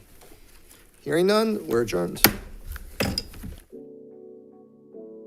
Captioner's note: gavel thudding; relaxing instrumental music